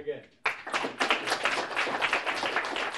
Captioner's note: applause